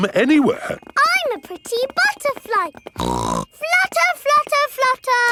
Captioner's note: snorts